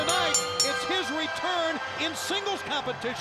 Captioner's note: bell ringing